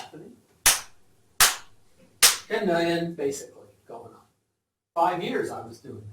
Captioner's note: claps